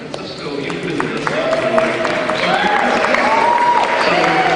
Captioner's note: cheering